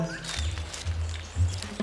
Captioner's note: birds chirping